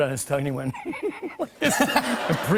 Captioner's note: laughs